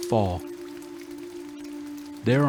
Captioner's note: rain falling gently